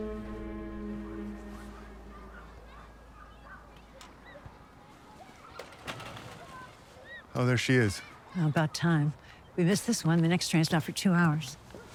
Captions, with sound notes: [music fades] [children playing in the distance] -There she is. -About time. If we miss this one, the next train's not for two hours.